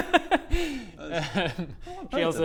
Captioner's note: awkward laugh